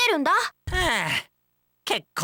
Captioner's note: sigh